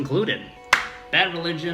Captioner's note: claps